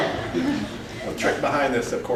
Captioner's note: more loud laughter